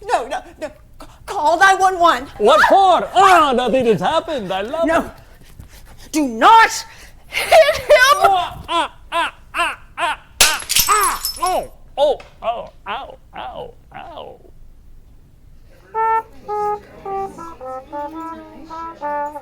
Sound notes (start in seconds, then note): 8.1 Marco evilly laughing; 10.4 bottle shattering; 15.6 jazzy music